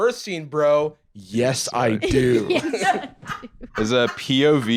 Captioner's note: laugh